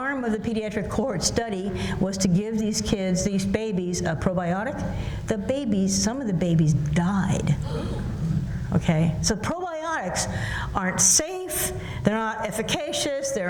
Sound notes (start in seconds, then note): 7.6 gasps